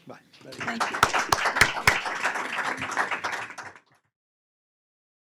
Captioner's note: audience applause